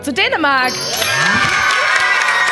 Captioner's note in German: Jubel